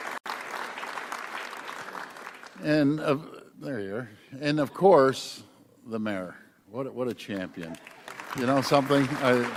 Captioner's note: applause